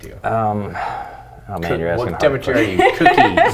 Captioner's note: mumbles